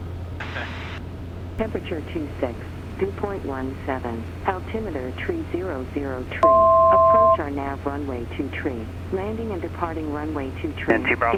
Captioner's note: ATIS Announcement